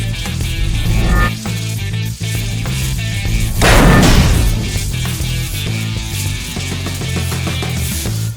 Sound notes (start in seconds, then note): 0.4 sword whooshes; 2.6 sword crashes